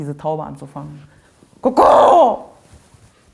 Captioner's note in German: Imitiert Taubengurren